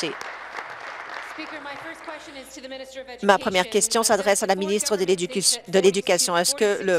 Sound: applause

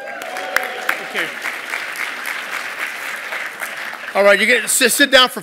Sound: applause

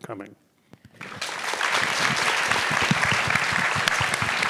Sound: everyone applauding

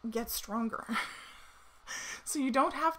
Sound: chuckles

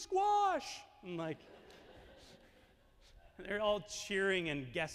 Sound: audience laughing

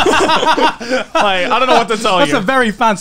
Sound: laughing

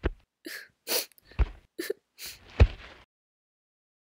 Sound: Pear sniffles

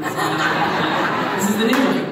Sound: audience laughs

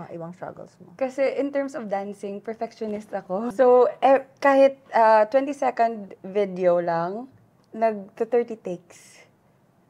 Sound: none

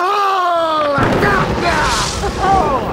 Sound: crash

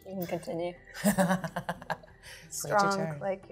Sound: laughs

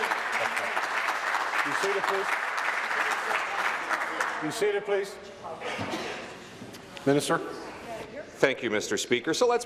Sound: applause

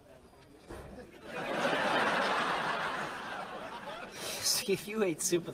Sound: another laugh track

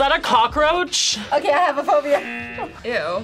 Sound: buzzer rings

